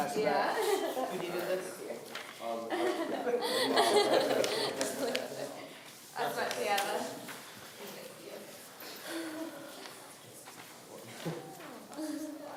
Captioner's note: laughing